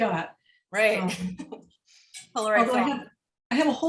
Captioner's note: laughter